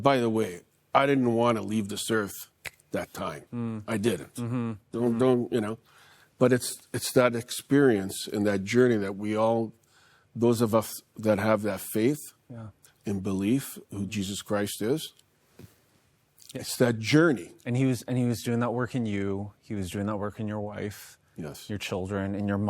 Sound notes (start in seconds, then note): 2.6 snaps fingers